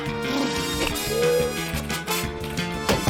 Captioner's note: snorts; blubbers lips; gasps; keys clack; clunk!